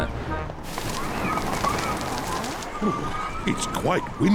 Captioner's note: wind howls